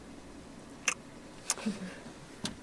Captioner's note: smacks lips